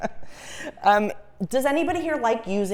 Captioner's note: laugh